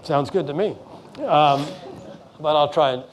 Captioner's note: laughing